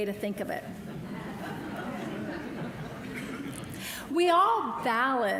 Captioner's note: audience laughter